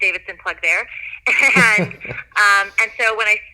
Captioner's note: both laugh